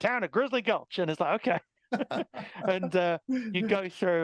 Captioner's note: both laughing